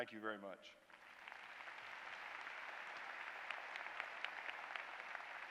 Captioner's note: applause